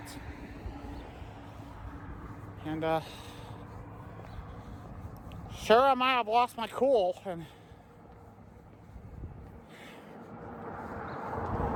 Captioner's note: Trafic on Saint Joe Road